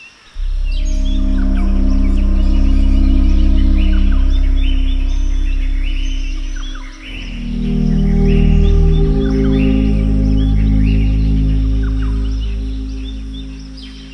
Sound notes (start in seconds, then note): 3.6 birds chirping; 8.9 ominous music continues